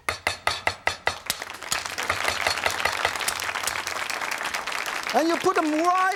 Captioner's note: audience applauds